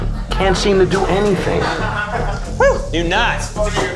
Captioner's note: laughter